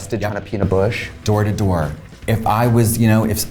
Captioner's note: none